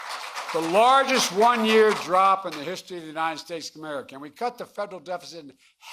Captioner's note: applause